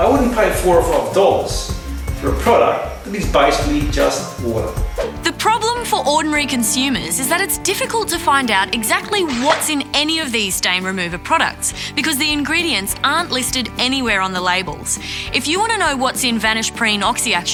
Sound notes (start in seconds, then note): none